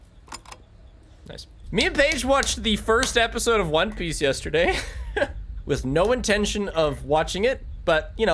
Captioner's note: laughs